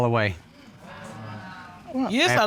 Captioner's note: audience exclaiming